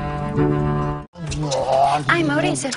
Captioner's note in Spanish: Imita motor